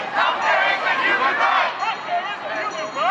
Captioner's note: crowd